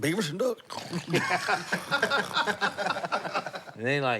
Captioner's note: snores; laughter